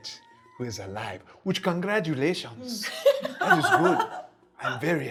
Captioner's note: laughing